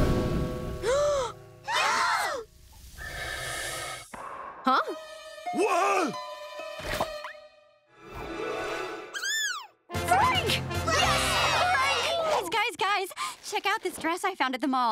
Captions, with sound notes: [gasping] [mechanical breathing] - Huh? - Wha...?! Frank! Yes, Frank! Guys, guys, guys! Check out this dress I found at the mall!